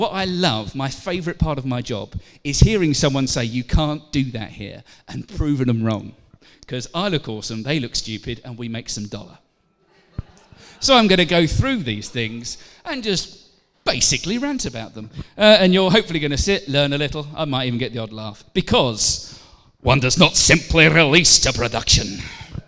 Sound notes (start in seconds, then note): 9.8 laughter